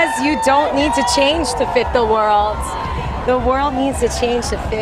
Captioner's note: cheers and applause